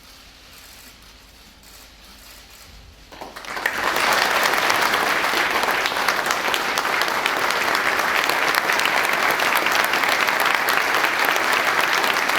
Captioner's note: applause